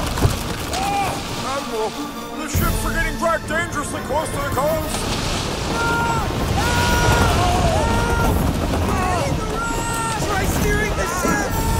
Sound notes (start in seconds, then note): 5.2 sailors yell